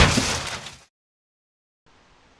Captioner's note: crash